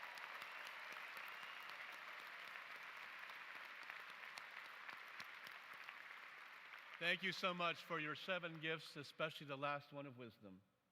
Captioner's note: applause